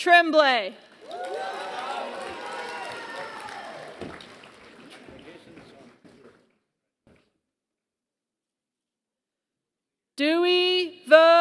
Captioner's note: applause